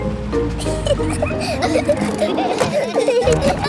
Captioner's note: children giggling